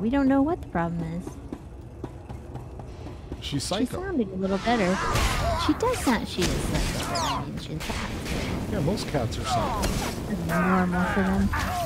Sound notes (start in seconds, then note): 9.4 grunting